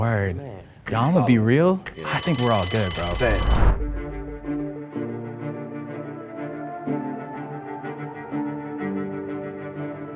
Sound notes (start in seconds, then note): 1.9 bell rings; 3.0 dramatic music